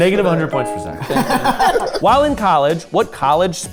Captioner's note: group laughing